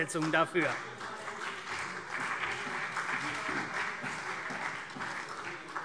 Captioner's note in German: Beifall CDU und BÜNDNIS 90/DIE GRÜNEN - Zurufe SPD